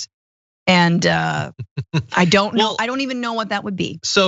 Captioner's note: laugh